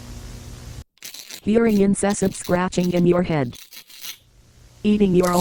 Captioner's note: scratching